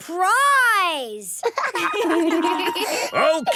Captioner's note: laughter